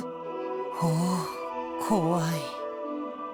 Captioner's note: sigh